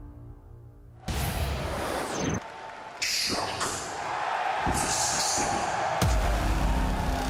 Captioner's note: crowd cheering